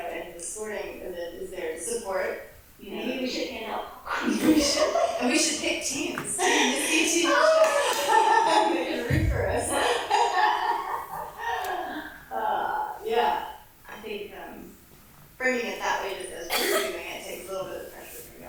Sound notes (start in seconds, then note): 6.4 laughs